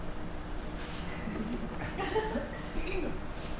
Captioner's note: laughter